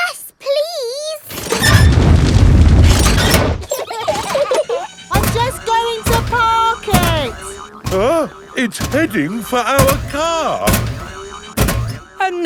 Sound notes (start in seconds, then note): 3.6 children giggling